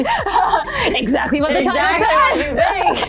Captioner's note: laughs